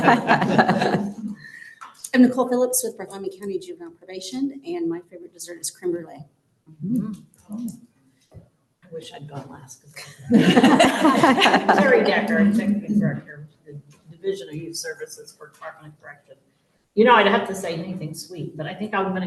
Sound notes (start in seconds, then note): 2.2 laughter; 10.1 laughter